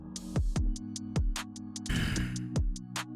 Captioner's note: sighs